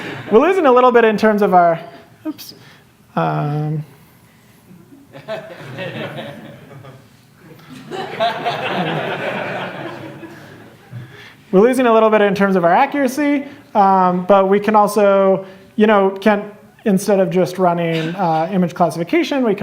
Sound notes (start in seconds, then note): 0.0 laughter; 5.0 laughter